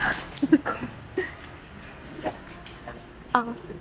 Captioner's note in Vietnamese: tiếng cười